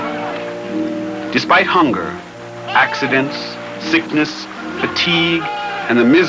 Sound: touching music; man shouting

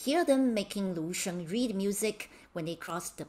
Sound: speaking in Mandarin

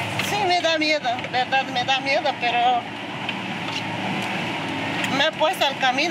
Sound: speaking in foreign language

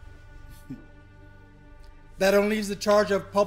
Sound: chuckles

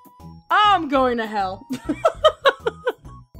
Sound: laughs

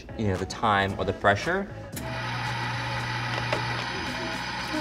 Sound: machine whirs

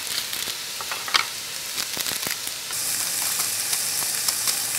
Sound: cutting

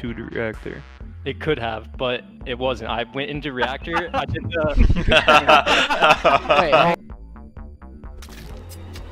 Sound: laughing

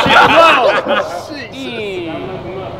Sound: group laughs

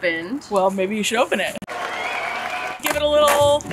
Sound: crowd cheering

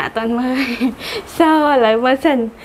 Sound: laughing

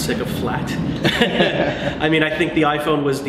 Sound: laughter

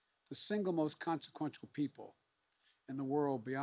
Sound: none

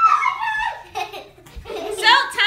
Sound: laughing

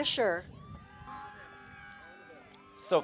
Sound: cheering

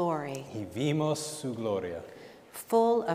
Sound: speaking in Spanish

